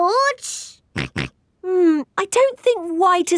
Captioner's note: snorts